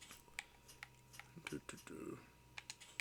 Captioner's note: controller clacking